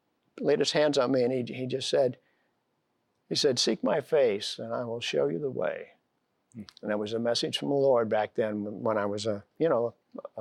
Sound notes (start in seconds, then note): none